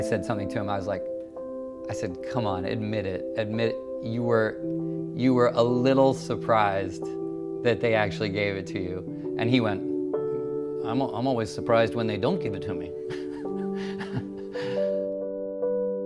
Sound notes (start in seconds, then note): 13.1 laughs